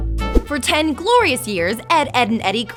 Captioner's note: voiceover